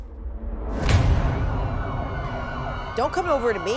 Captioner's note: siren wails in distance